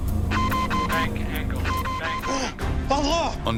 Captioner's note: alarm beeping; recorded Voice